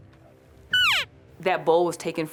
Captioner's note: elk call chirping